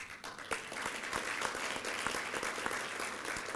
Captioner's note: applause